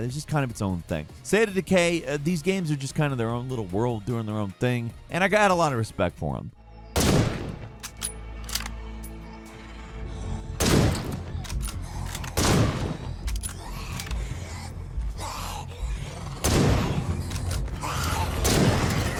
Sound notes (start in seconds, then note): 6.9 gun firing; 13.4 zombie growling; 16.4 gun firing